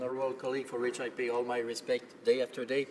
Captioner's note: speaking French